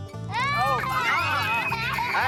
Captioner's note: screams